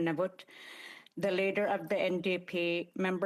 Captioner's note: speaking Indigenous Language